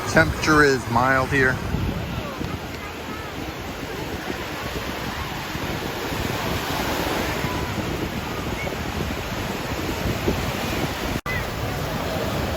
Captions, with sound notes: Temperature is mild here. (waves splashing)